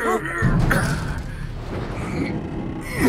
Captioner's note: metal shifting; grunts